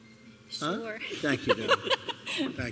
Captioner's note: laughter